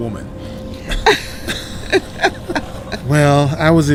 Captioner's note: both laugh